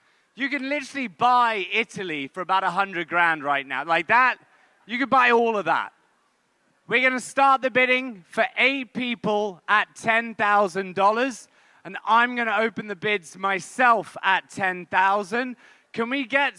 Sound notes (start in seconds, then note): none